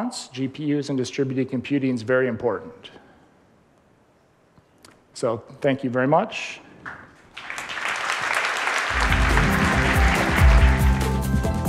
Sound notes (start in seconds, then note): 7.2 applause; 8.9 outro music